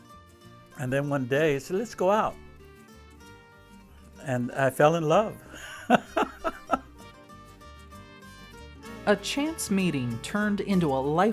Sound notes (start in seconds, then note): 5.5 laughing